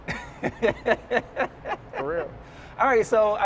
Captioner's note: laughs